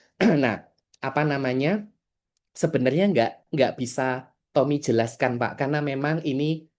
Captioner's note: berdehem